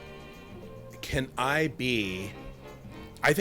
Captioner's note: none